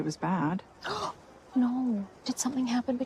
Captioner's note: gasps